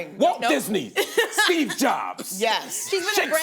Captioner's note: laughs